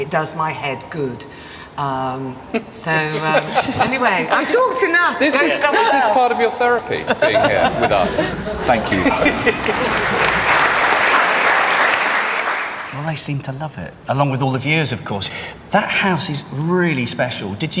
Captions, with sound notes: It does my head good. (all laughing) So anyway, I've talked enough. - Is this part of your therapy being here with us? - Thank you. (audience clapping) - Well, they seem to love it along with all the viewers, of course. That house is really special.